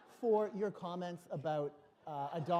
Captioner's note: laughter